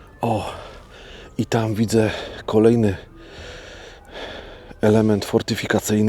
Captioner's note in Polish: westchnienie; wciągnięcie powietrza